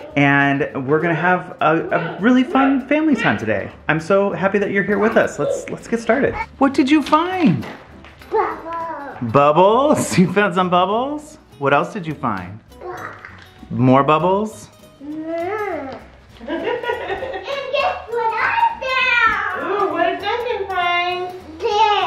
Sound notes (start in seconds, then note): 16.4 laughs